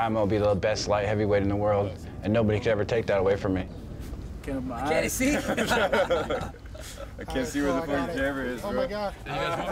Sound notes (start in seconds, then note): 4.6 chatter